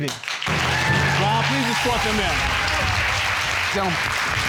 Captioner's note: audience applauding